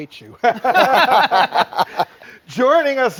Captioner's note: men laughing